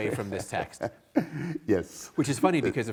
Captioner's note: colleague chuckles